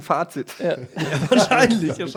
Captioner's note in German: Die lachen